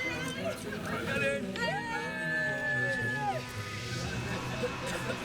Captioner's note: all cheer